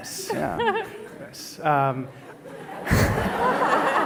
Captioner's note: laughter